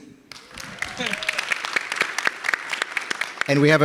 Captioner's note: audience applauding